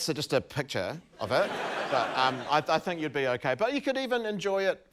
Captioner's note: laughter